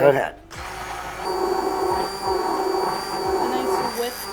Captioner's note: blender whirring